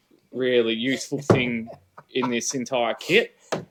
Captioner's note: laughter